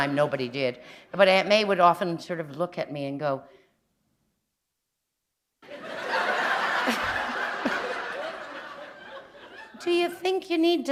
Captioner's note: laughter